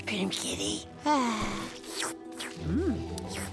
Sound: licking

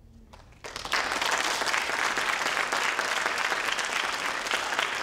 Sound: crowd applauds

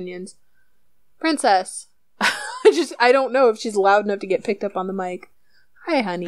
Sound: laughs

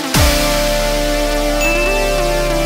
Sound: pling

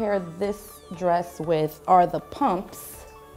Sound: none

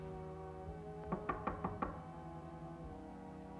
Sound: knock on door

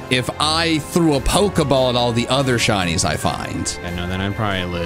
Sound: none

